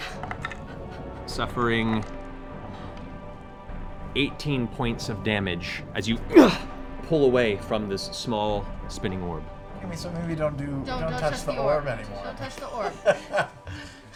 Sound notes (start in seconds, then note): 6.2 grunts